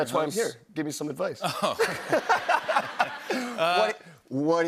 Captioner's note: laughter